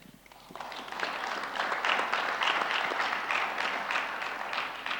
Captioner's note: audience applauds